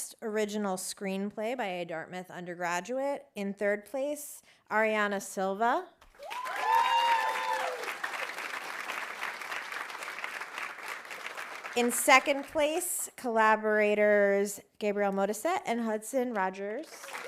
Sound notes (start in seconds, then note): 6.1 audience applauding; 6.2 audience cheering